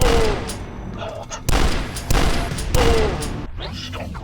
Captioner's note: bam; bam-bam-bam